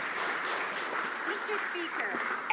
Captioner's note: some Applause